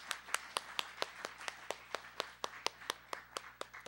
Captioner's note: applause